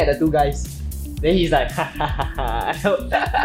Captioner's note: maniacal laughter